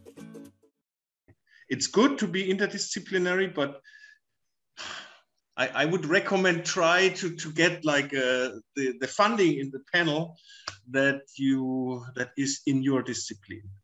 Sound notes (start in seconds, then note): 4.8 sigh